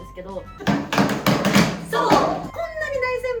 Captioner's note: laughs